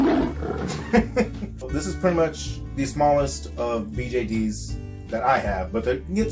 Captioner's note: chuckles